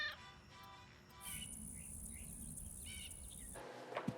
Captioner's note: Blinky meowing